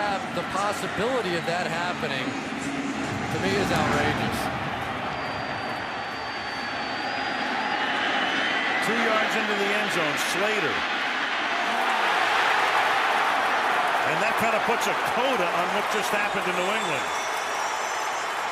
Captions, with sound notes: 2 yards into the end zone, Slater. [cheering] And that kind of puts a coda on what just happened to New England. Speaking of coda, that's Cody Glenn who plants him with nine seconds.